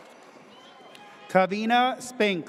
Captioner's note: audience cheers